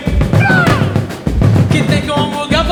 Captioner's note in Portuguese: grito